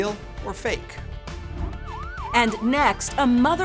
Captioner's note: siren wailing